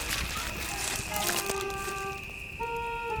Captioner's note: footsteps approaching